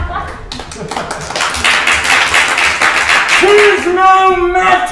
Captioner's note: crowd applauding